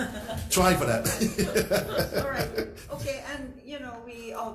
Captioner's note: all laugh; laughs